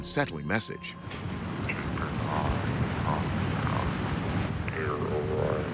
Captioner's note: man on the phone